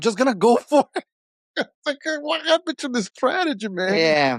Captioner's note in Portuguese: risos